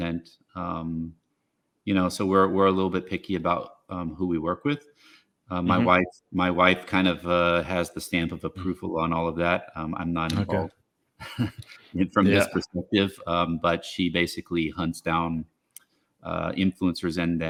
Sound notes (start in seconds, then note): 11.2 chuckles